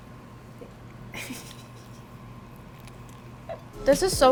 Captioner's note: laughing